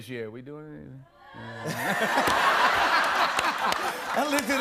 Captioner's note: laughter